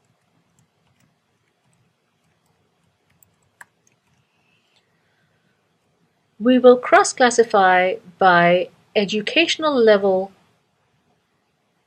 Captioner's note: pause